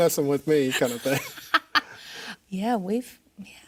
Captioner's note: laughing